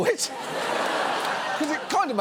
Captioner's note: studio audience laughs